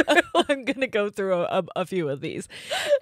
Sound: both laughing

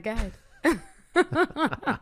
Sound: laughter

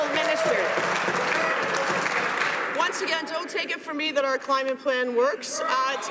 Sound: some Applause

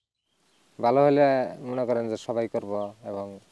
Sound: non-english speech

